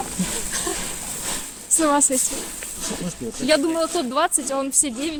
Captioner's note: laughing